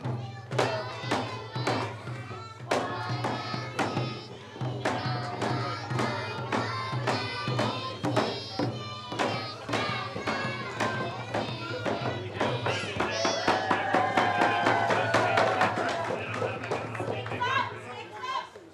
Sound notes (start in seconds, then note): 12.6 cheers and applause